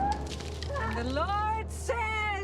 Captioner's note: screaming